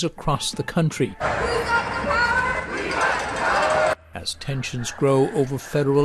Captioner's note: chanting